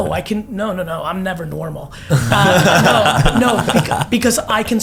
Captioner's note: all laugh